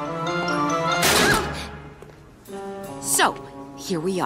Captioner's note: clangs